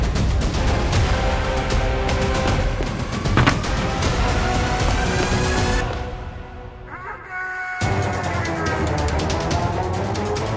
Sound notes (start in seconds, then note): 2.8 banging; 7.8 dramatic music playing